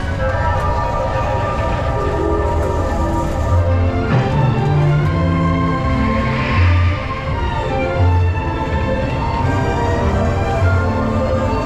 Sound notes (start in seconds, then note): 4.2 wind passing; 5.1 woosh